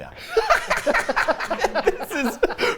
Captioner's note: everyone laughs